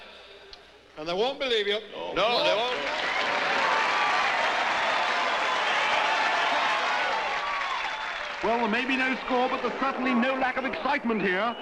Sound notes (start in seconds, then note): 2.8 all cheering